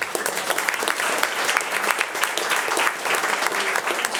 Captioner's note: attendees applauding